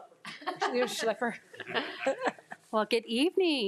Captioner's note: group laughing